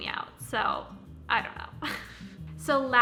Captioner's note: chuckles